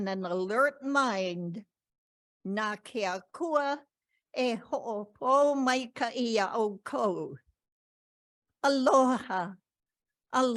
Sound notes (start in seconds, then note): 1.5 speaking in ‘Ōlelo Hawai‘i